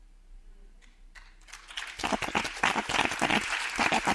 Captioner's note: audience applauds